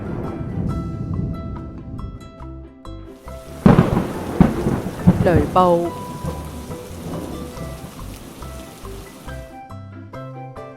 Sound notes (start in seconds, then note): 6.1 thunderstorm